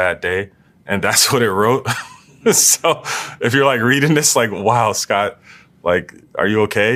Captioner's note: laugh